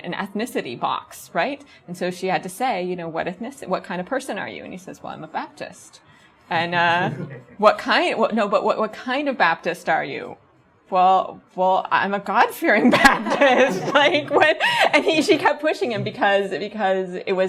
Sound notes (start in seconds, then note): 7.0 audience chuckles; 12.8 audience laughs